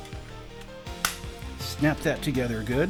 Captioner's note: big snap